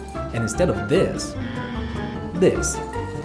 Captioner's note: buzzer